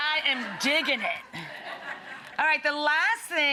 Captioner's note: audience laughing